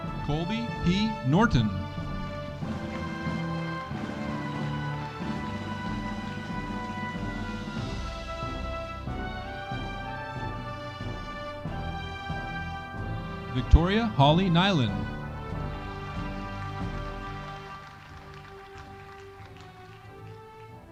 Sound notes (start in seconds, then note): 2.7 audience applauding; 15.2 audience applauding